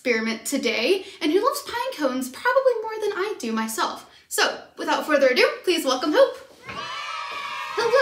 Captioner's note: cheering sounds